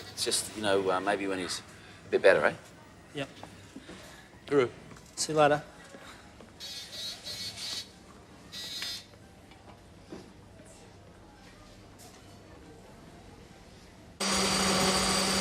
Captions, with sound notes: IT'S JUST, YOU KNOW, MAYBE WHEN HE'S A BIT BETTER, EH? YEAH. TOOROO. SEE YOU LATER. [Beeping]